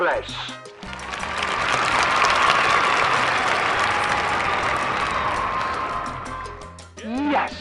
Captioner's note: applause